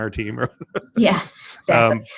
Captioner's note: laughing